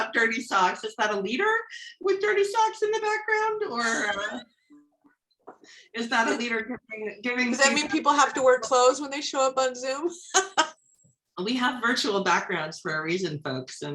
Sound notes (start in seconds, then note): 10.2 laughs